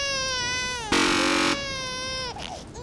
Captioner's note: buzzer